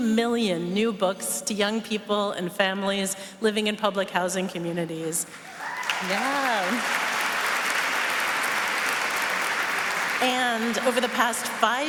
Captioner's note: applause